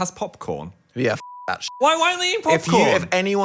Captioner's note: beep